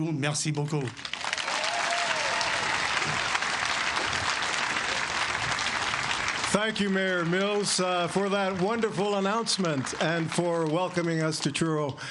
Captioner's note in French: Voix en Anglais